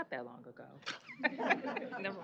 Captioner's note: laughter